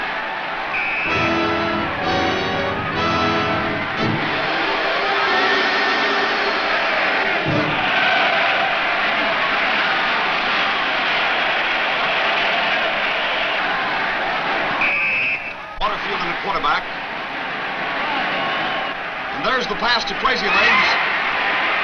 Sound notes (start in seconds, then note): 0.7 whistle blows; 1.2 exciting, dramatic music; 9.8 crowd cheers; 14.8 whistle blows